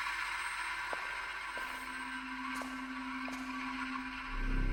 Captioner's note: footsteps tapping